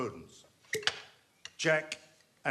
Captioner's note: cork popping